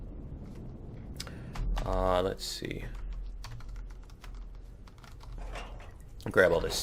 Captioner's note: keystrokes